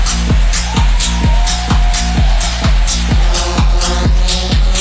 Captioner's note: crowd cheering